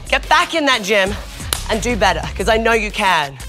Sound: clapping

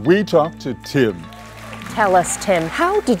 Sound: audience applauding

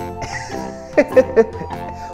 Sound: laughs

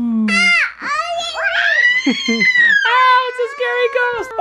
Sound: yelling

